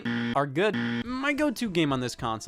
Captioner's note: buzzer buzzing